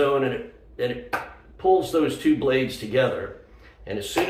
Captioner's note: claps hands together